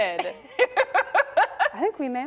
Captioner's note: laughing